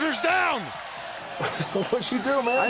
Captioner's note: crowd cheering